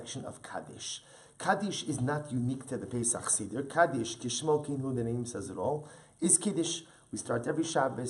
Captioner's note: Hebrew